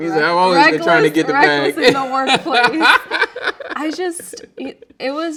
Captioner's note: laughing